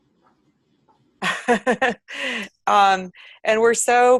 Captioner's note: laughs